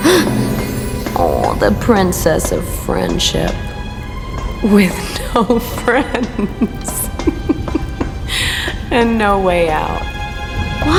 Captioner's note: laughing mockingly